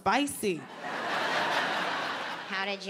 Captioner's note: audience laughs